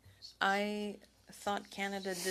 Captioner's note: speaking French